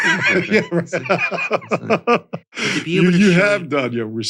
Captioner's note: laughing